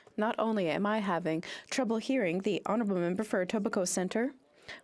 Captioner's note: speaking French